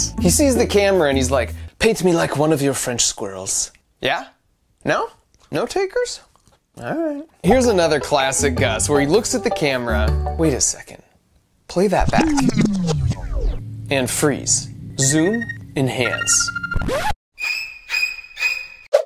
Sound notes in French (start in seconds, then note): 12.0 vrombissement électronique; 15.9 bip électronique